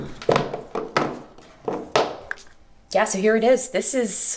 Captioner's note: boxes clatter